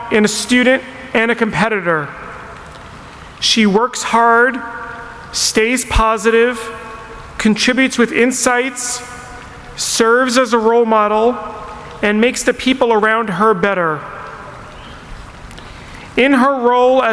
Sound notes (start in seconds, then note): none